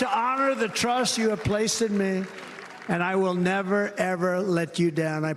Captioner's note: cheers and applause